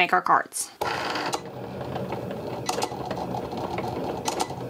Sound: printer humming

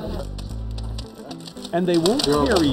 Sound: money snapping taut

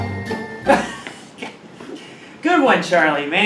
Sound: laughs

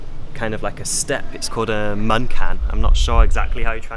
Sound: speaking Chinese

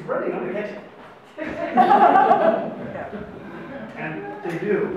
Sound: audience laughs

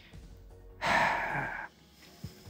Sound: sigh

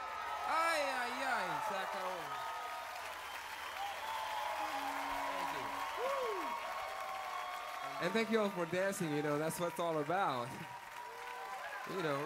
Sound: cheers and applause

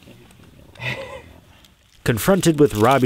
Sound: laughs

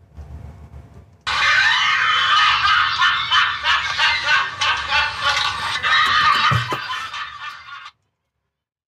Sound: laughter

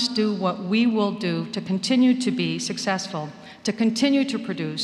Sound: none

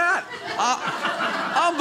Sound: audience laughing

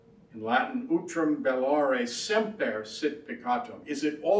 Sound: speaks foreign language

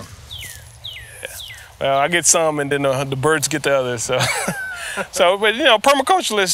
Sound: laughs

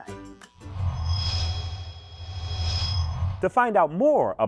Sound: sound Effects

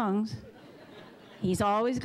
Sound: audience laughing

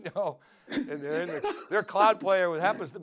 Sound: laughing; laughs

